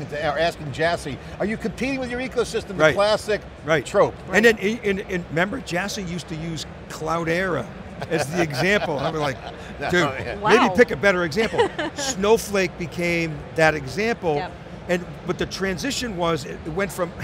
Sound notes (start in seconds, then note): 8.0 laughs